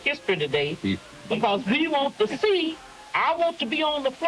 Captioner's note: people chuckling